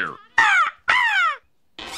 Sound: crow noises

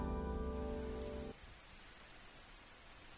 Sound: sound of rain

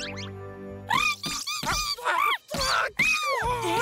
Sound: gibbering

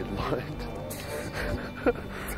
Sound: laughing

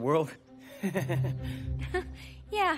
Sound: nervous laughing

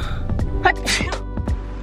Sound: sneeze

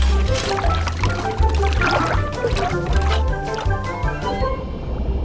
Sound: sound of the water

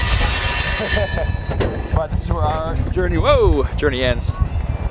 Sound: laughs

